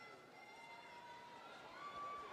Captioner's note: applause